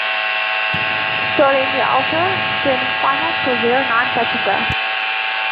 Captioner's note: radio